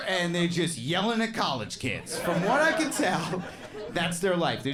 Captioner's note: crowd laughing